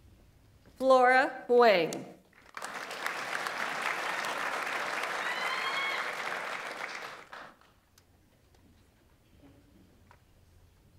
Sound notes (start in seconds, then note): 2.4 audience applauds; 2.7 audience member cheers